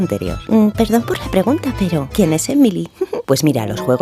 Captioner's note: giggle